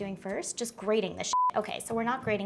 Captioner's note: beep